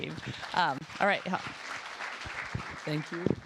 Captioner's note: applause